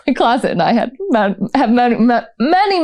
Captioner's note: stuttering